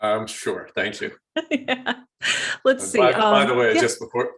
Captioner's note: laughs